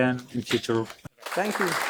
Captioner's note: applause